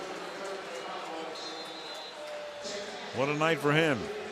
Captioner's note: pa announcement